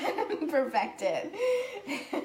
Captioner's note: laughing